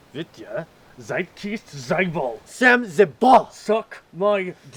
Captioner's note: both speaking Russian